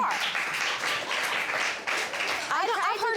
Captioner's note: applause